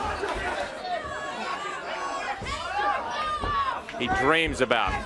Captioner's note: crowd chatter